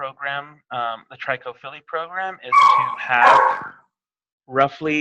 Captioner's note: dog barking